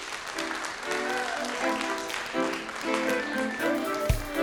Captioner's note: people clapping